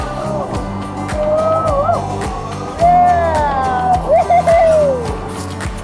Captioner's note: group cheering; cheerful music continues